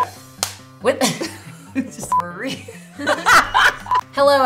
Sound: women laughing

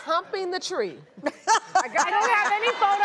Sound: laughter

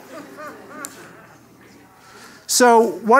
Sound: laugh

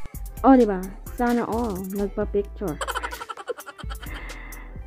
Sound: laughing

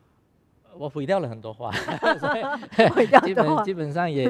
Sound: laughs

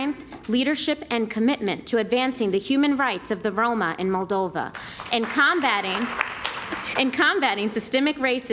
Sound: applause

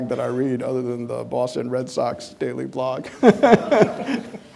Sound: laughing

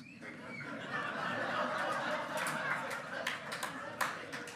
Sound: hearty laughing

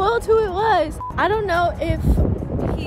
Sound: beep

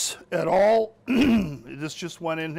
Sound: clears throat

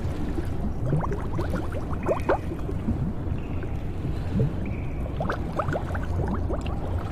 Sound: water bubbling

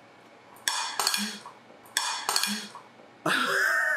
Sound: fork clattering; laughs

